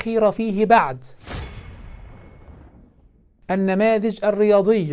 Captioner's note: sound effect